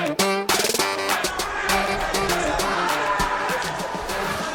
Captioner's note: crowd yelling